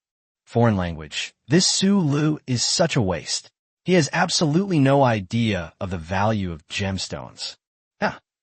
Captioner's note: foreign language